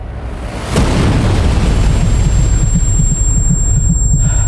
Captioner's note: explosion; gasping